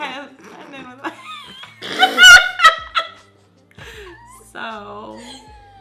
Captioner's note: laughs